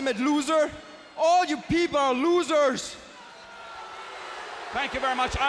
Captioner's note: crowd clamoring